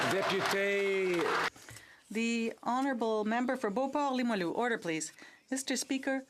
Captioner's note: some Applause